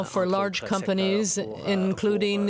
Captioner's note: speaking French